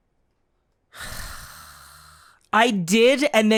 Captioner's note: sigh